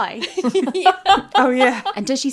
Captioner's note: laughing